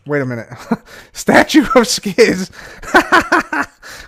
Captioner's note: laughs